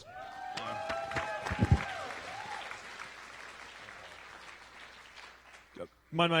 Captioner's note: applause